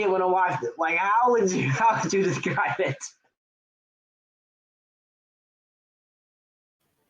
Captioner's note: laughing